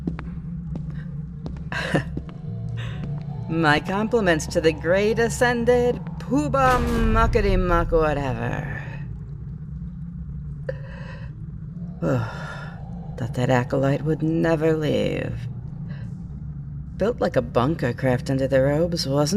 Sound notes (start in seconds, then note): 0.0 guard's footsteps retreat; 6.6 dungeon door swings shut